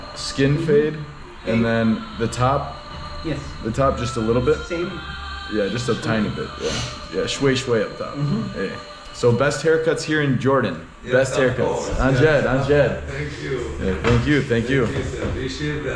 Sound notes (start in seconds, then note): 7.3 speaking Arabic